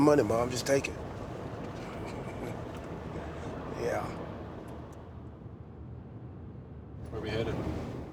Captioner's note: laugh